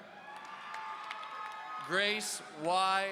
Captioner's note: audience cheering